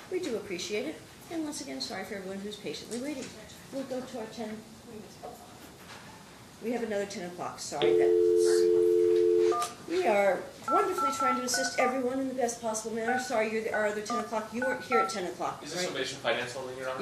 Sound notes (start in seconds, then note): 7.8 telephone dial tone